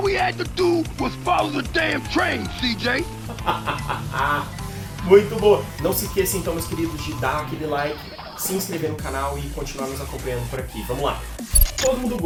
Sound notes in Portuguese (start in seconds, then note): 3.2 risadas